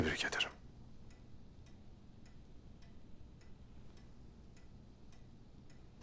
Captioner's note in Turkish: Saat efekt sesi